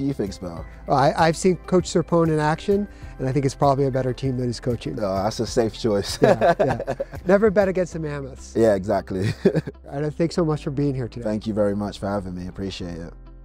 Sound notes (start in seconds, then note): 6.2 laughs; 12.9 soft music